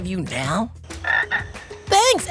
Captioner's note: croaks